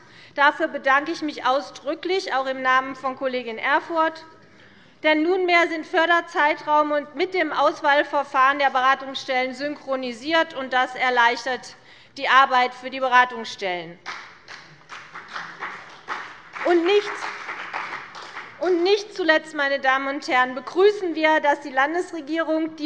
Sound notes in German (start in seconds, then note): 14.0 Beifall bei der CDU und dem BÜNDNIS 90/DIE GRÜNEN